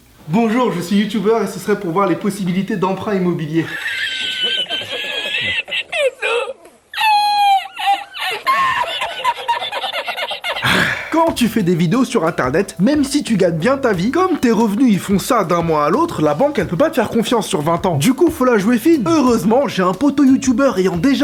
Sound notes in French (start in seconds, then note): 3.6 rires; 10.5 soupir